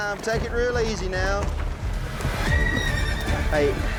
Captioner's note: horse neighs wildly